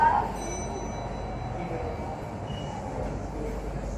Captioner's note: chime